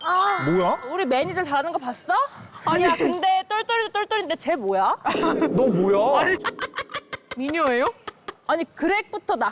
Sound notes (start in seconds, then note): 6.2 hearty laughter